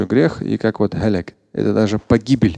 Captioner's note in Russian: говорит на арабском